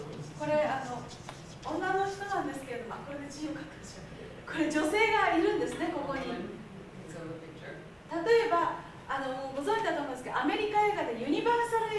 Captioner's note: speaking Japanes